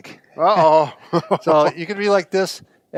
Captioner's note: laughs